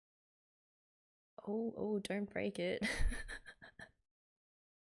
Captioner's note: laughs